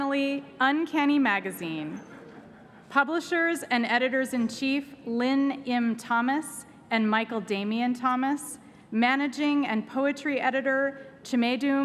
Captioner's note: laughter